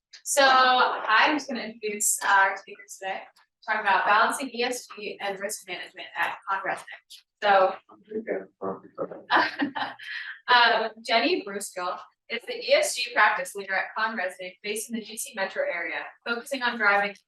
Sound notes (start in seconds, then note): 8.6 laughs